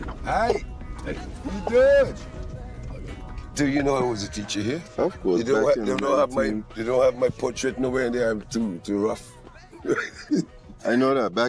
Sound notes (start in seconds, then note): 9.6 laughs